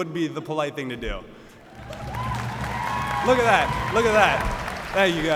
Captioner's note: cheers and aplpause